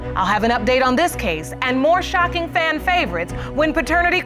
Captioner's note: none